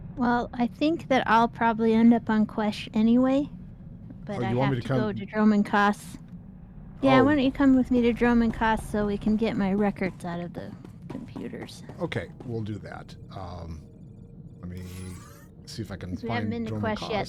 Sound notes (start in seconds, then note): none